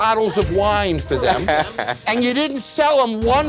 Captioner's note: laughs